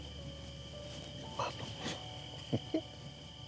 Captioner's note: spanish